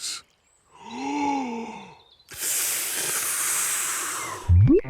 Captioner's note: takes big breath and blows